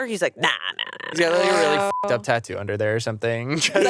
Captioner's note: beep